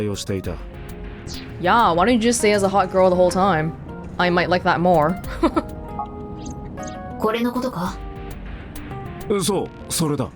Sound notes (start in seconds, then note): 5.2 chuckles